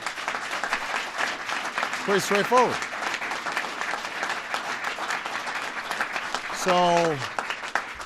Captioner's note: applause